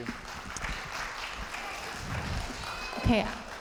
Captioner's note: audience applauding